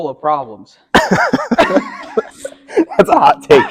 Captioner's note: laughs